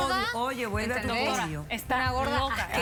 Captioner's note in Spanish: Hablan al unísono